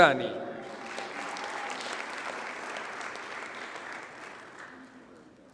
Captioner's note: audience cheers and applauds